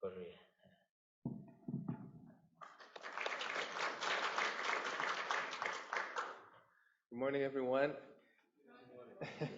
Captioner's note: applause